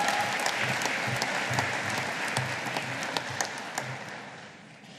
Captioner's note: audience applauding